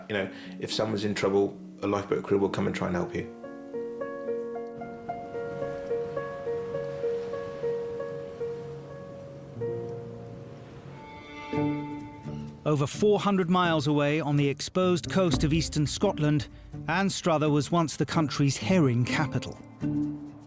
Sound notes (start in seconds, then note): 4.0 gentle music; 6.8 waves crashing; 9.6 gentle music